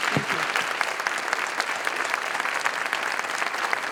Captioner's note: applause